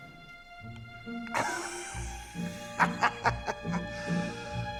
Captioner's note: laughs